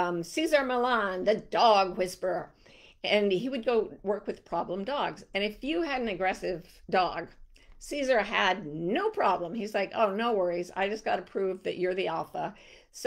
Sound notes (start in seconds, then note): none